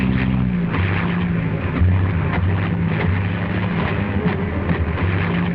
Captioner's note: plane engine sputtering